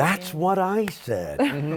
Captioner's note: laughter